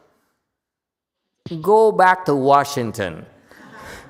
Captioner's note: laughs